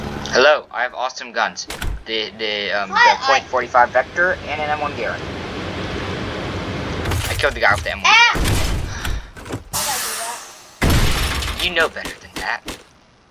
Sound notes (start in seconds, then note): 8.9 sighs